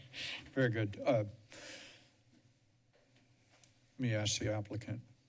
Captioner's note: pause